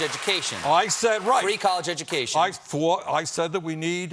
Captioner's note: applause